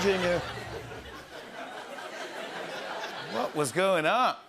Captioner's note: laughter